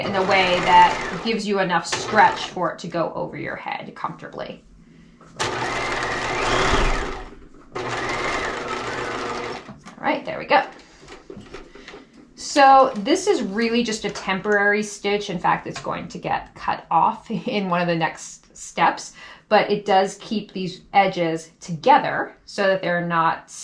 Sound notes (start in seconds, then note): 5.4 sewing machine roaring